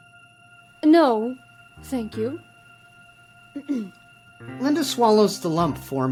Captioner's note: clears throat